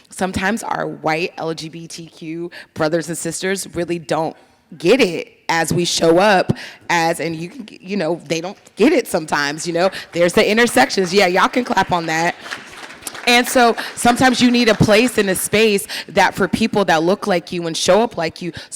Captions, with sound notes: sometimes our white LGBTQ brothers and sisters really don't get it as we show up as and you know, they don't get it sometimes, you know? There's the intersections. Yeah, y'all can clap on that. (audience applauding) And so sometimes you need a place in a space that for people that look like you and show up like you